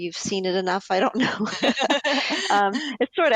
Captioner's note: laughter